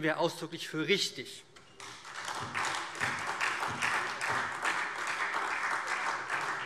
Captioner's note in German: Beifall SPD